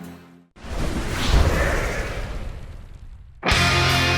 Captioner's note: swooooosh